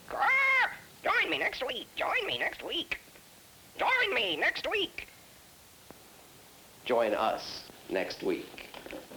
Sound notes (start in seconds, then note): 0.0 parrot talking; 0.1 parrot screeches